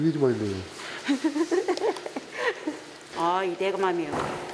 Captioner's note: laughs hard; laughs